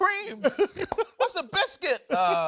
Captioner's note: laughs